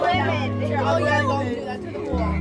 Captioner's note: indistinct chatter